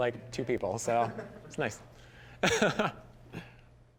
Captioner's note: all chuckling